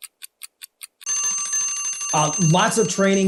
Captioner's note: bell ringing